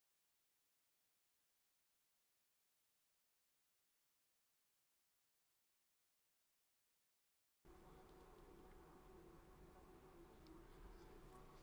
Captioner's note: silence